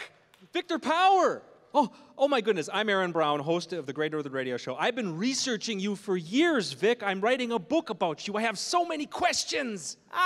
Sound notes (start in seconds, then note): none